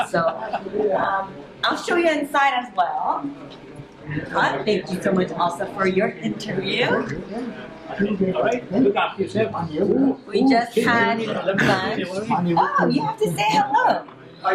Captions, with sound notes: So I'll show you inside as well. Thank you so much also for your interview. [ Chatter ] >> We just had lunch. Oh, you have to say, "Hello."